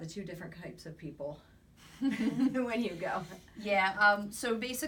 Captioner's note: both laugh